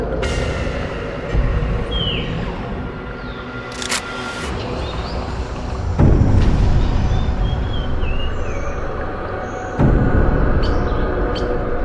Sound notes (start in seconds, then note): 3.8 door sliding; 3.8 lock clicking